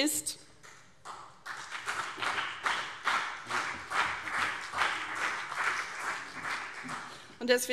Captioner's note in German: Beifall CDU und BÜNDNIS 90/DIE GRÜNEN